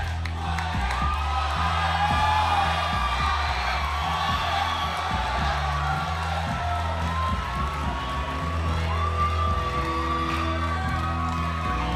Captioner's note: crowd cheering